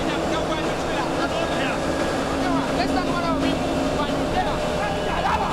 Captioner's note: shouting muffled by engine